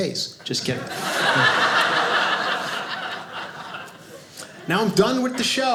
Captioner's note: audience laughing